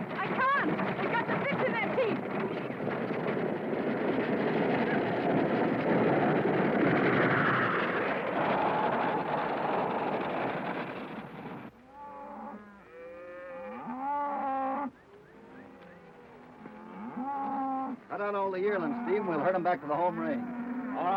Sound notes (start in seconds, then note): 2.9 wagon rattling; 11.9 cows mooing